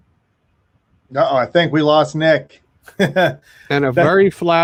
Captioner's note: chuckles